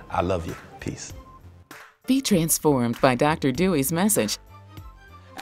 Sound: voiceover

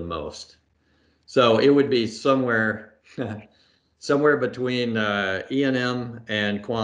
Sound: laughs

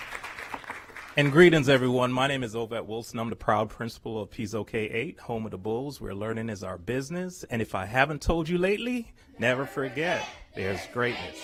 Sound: applause

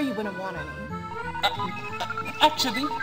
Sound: beeping in protest

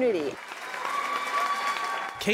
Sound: cheers

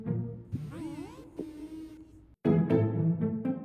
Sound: robot noise

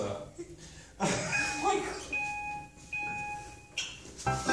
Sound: three electric beeps

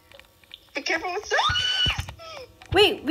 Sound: screams

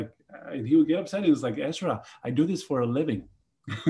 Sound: laughs

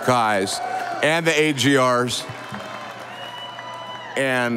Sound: audience applauding

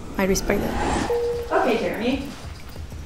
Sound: techno bleeping

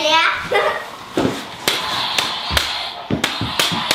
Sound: laughs

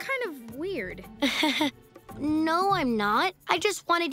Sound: laughs nervously

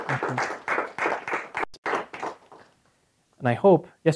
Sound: applause

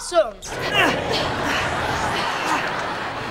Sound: moaning

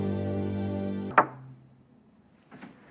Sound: knock on door

